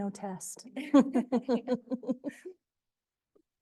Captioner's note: laughter